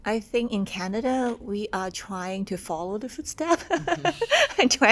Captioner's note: laughs